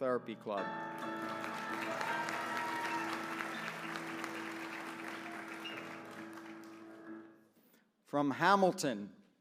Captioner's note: applause